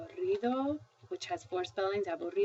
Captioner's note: spanish; speaking spanish